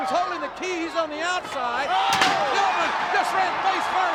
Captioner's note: steel chair thudding